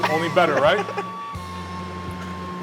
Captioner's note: laughs